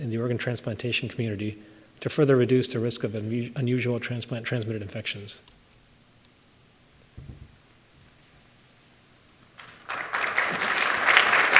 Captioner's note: applause